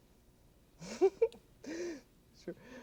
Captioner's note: laughs